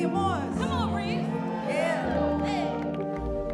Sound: audience cheering

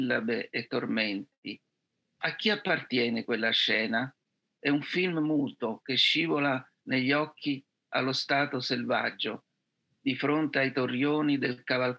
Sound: reads in Italian; reads in Italian

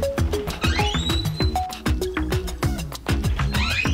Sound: electronic music; door creaks

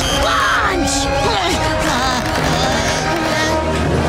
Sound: grunting

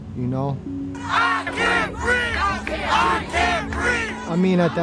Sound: crowd

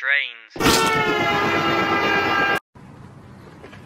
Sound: train horn

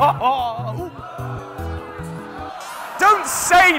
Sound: laughing

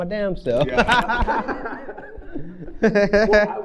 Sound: laughs

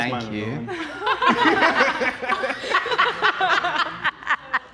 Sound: all laughing

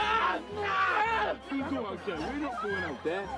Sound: snarling; yelling

